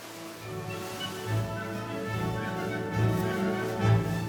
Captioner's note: fabric rustling